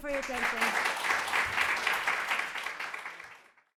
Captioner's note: crowd clapping